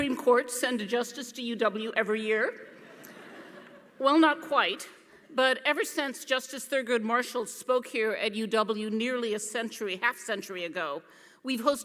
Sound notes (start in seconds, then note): 2.7 audience laughing